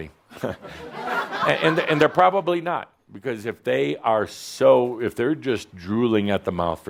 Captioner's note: some laughter